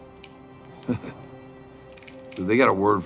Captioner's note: laughs